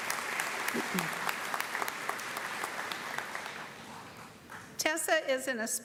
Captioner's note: applause